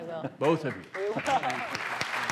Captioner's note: applause